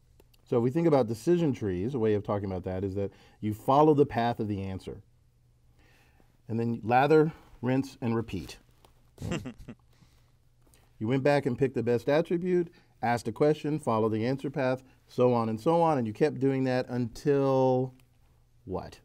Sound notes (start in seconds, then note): 9.2 laugh